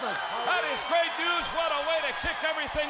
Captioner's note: crowd cheering